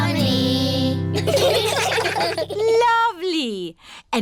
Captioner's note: children giggling